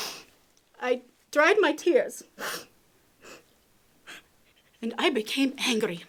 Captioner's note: sniffs